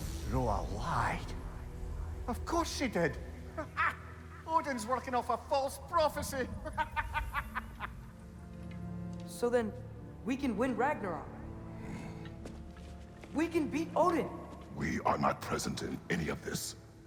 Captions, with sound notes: Gróa LIED! Of course she did! (laugh) Odin’s workin’ off a false prophecy! (laughs) So then... ...we can win Ragnarök! (grunt) We can beat Odin! We are not present in ANY of this!